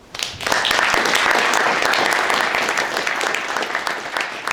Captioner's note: audience applause